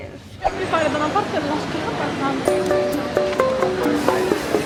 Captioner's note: crowd talking